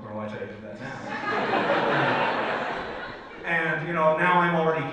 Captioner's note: audience laughs